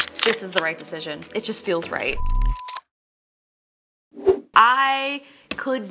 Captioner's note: signal beeps